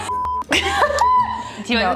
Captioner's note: both laughing; laughing dramatically